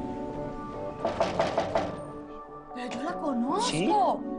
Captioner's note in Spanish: Toques en la puerta